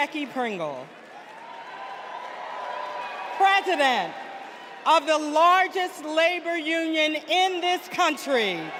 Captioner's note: cheers and applause